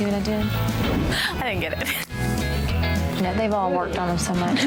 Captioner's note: laughs